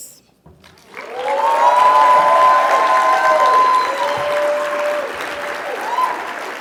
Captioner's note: audience cheering and clapping